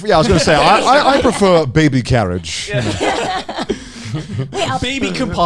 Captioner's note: posh accent